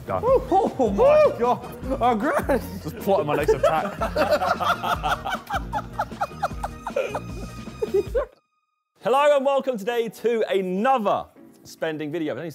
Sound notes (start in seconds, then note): 4.7 all laughing